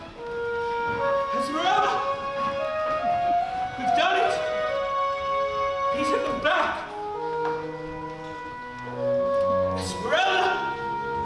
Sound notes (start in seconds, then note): none